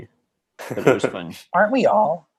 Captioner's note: chuckling